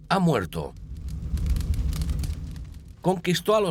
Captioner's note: fire crackling